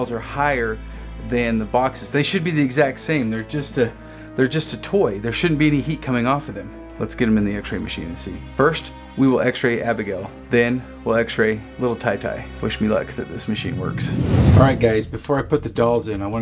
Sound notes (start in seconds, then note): 13.3 air whooshes